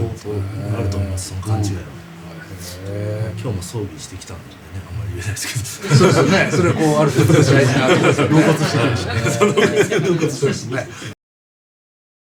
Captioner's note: laughs